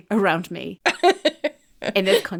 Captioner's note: laughing